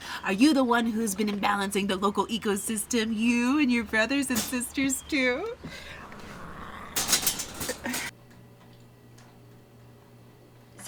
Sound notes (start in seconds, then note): 5.8 El Lobo growling